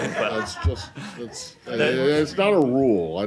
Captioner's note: laughter